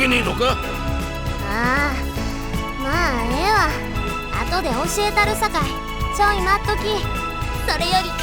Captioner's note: sigh